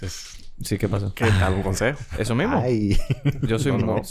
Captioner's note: laughs